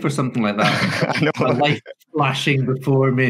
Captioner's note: laughs